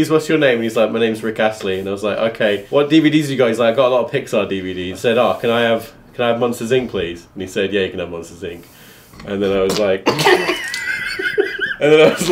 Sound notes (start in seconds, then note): 9.5 spitting water; 10.2 laughing